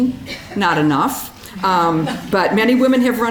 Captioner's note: audience chuckling